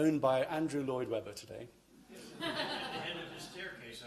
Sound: laughter

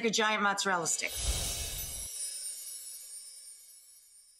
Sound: swoosh

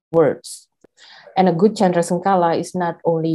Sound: speaks in foreign language

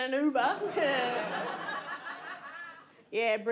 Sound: audience laughs

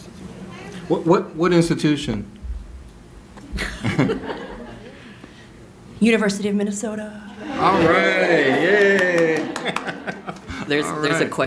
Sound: male voice off camera

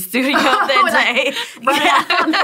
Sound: laughter

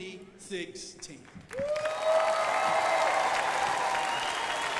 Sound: crowd applauding

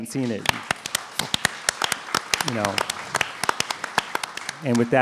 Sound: applause

